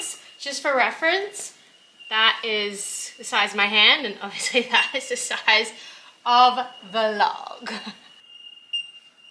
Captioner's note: chuckles